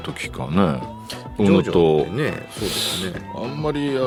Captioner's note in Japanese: 鼻息